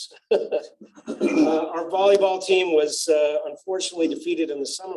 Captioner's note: laughter